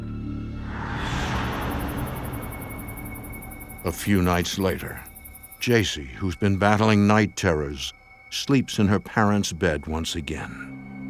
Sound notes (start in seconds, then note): 0.5 swooshing; 2.7 ominous music